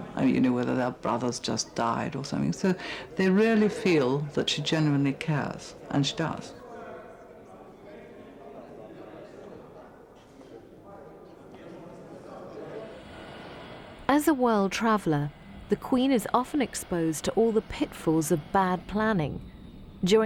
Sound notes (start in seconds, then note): 7.4 congregation chatter